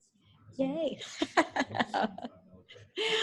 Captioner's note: laughs